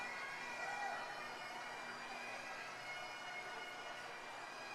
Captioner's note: crowd members cheering